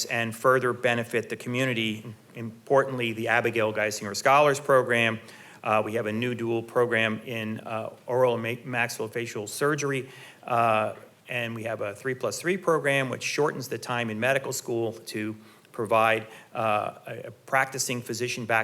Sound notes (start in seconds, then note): none